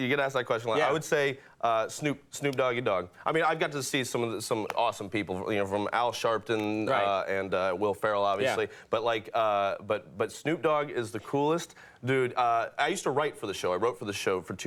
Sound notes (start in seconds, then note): none